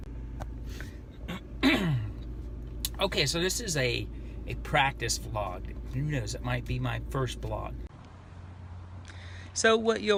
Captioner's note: clearing throat